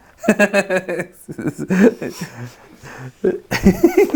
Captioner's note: Destin laughs